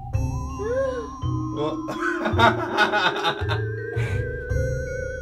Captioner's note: evil laughs